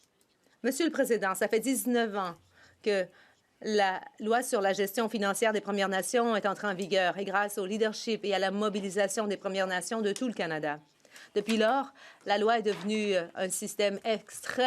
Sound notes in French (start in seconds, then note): 3.6 voix de l'interprète